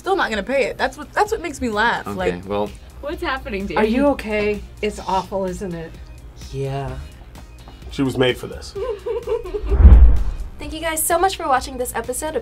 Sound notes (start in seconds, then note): 9.5 laughs